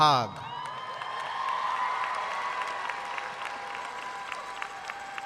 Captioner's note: students cheering and applauding